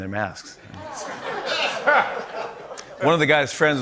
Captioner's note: laughter